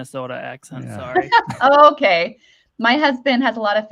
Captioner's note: chuckles